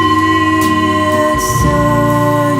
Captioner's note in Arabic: رنين الوعاء